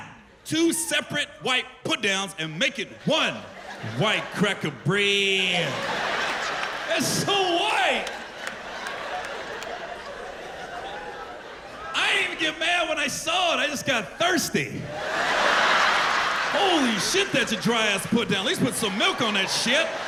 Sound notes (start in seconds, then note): 7.3 laughter; 14.8 laughter